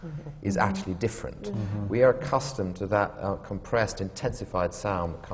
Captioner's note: murmurs of agreement from the panel